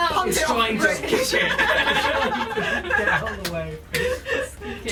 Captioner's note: laughing